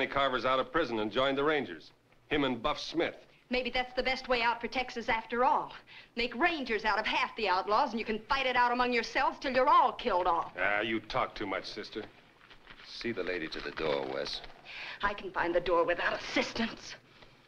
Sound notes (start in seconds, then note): none